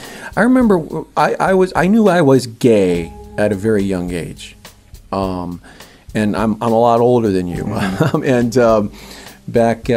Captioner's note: laughter